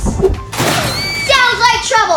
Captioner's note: boom